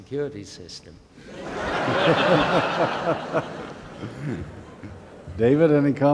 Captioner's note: laughter